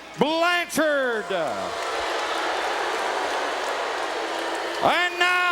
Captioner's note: crowd jeering